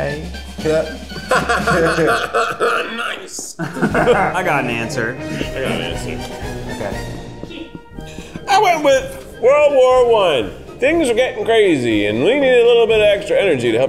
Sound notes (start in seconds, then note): 1.0 laughs sarcastically